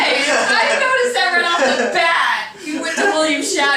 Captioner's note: laughing